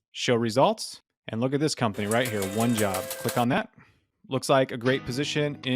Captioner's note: slot machine sound